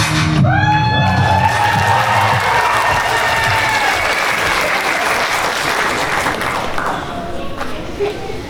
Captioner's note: applause